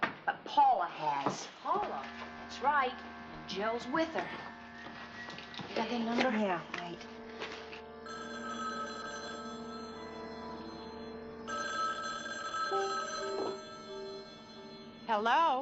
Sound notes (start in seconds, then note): 8.0 telephone ringing